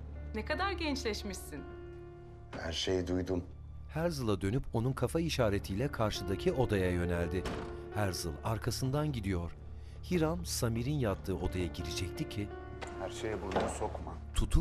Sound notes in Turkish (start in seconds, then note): 7.3 Kapı kapanma sesi